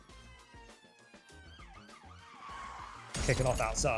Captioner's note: police Sirens in the background